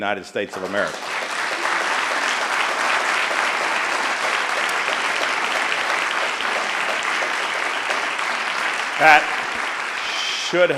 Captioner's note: applause